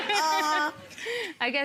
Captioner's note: people laughing